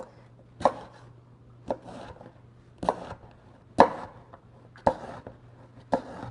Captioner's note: chopping